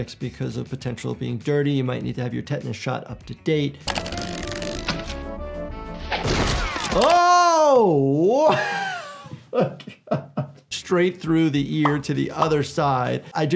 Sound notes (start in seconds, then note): 3.8 playful rhythmic music; 9.5 laughing